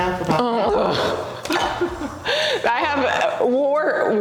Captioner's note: laughs